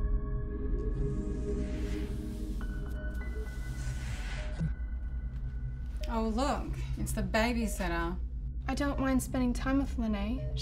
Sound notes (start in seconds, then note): 1.0 door whooshing